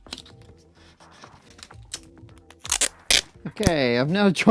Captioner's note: peeling tape